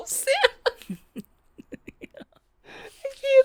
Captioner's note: laughs